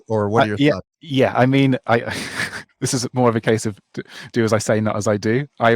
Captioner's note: chuckles